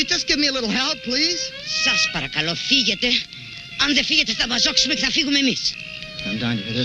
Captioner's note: speaking in foreign language